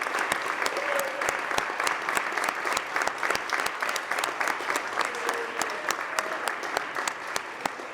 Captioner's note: applause